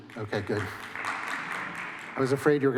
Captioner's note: applause